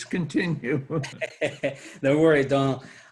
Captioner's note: chuckles